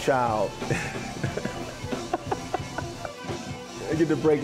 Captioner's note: laughs